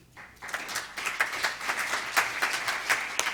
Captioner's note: clapping